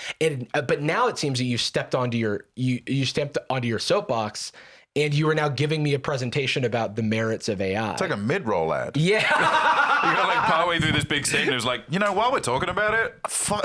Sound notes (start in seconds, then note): 9.0 laughs